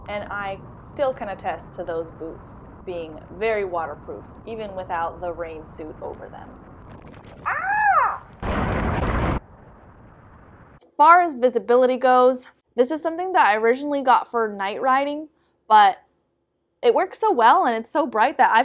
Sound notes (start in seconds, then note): 7.4 exclaims